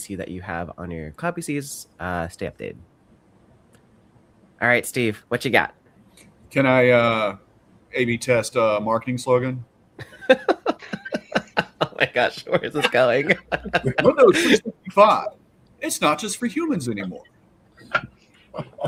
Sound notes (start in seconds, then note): 10.0 laughs